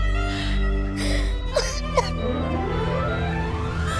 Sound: crying

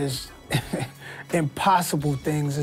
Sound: laughs

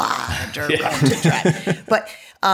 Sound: laughter

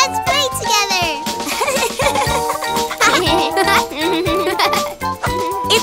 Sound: laughts

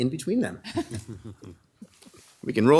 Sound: people laughing

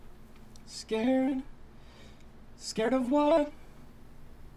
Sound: in robotic voice

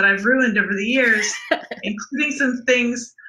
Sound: laughs

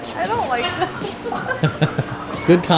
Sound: laughter

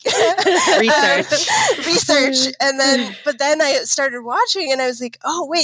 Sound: laughing

